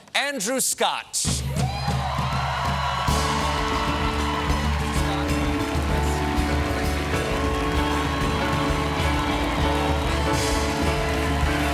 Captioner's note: applause